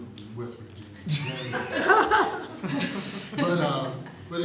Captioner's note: laughter